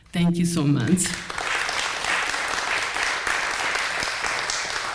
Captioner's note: applause